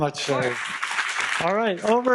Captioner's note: audience clapping